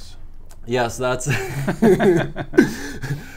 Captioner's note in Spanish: risas